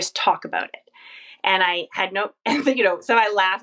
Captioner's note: laughs